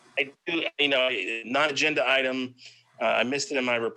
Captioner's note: faintly speaking